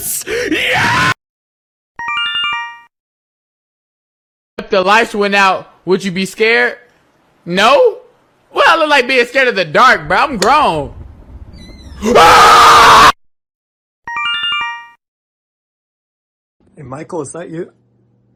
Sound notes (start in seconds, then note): 1.9 Yume Nikki Instructions sound effect; 11.0 click; 14.0 Yume Nikki Instructions sound effect